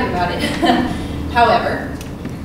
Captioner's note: laughs